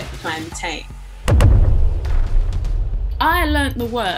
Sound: boom

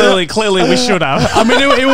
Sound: laughing

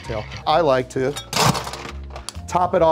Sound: ice cracking

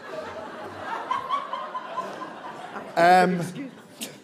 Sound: laughs

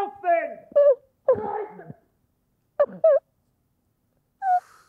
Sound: crying

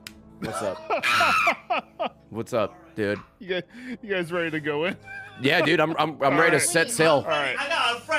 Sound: screams

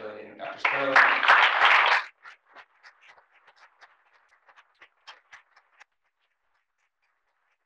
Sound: applause

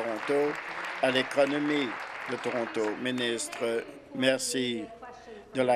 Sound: applause

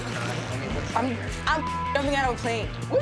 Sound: beep

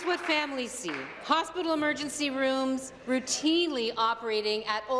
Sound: applause

